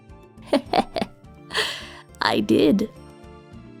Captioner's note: laughter